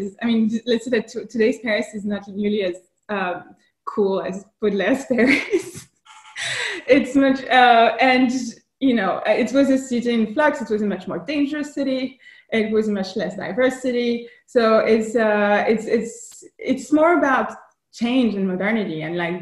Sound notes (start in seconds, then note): 6.0 laughs